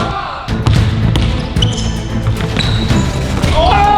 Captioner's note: upbeat orchestral music; ball bounces